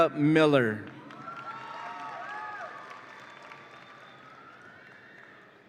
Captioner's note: audience applauds and cheers